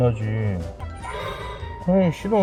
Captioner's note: A deep sigh